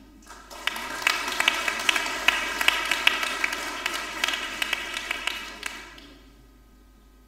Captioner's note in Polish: oklaski